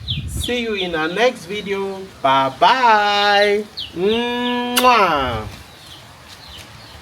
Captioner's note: kisses